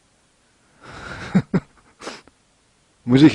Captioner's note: laughs